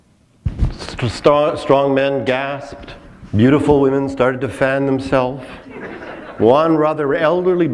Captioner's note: chuckle